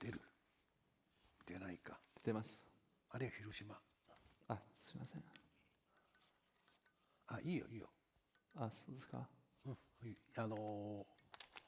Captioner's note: speaking in Japanese